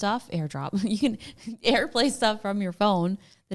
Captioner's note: laughs